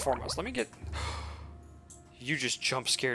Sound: gasp

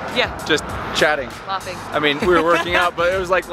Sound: laughs

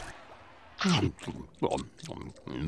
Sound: chewing

